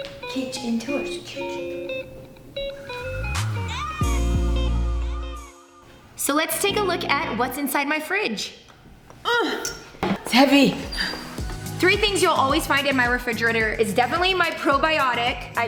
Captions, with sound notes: Kitchen tours, kitchen tour. (upbeat music) So let's take a look at what's inside my fridge. (groans) It's heavy. Three things you'll always find in my refrigerator is definitely my probiotic.